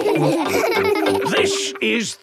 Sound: laughing

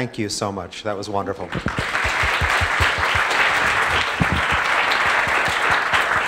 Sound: applause

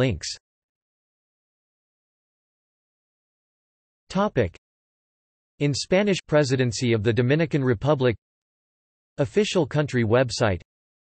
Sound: in Spanish

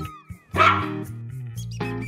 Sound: dog Bark

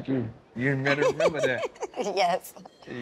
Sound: laughing

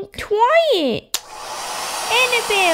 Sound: click!

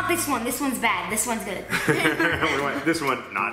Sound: laughing

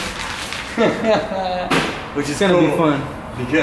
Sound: laughing

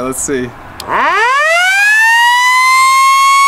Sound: siren

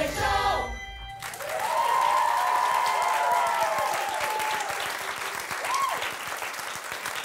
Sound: audience applauding; audience cheering

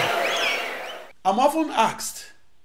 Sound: wild applause and cheering for 22 seconds

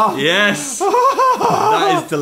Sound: moaning

